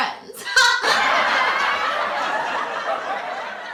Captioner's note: fantom audience laughter rolls in